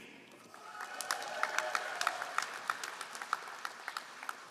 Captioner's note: all applauding